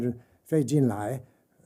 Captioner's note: speaking mandarin